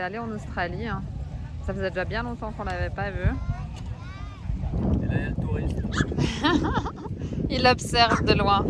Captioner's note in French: rires